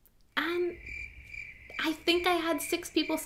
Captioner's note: crickets chirping